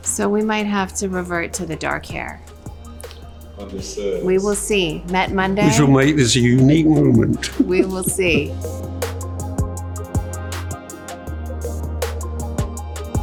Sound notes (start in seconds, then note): 6.5 chuckling; 9.0 light upbeat music continues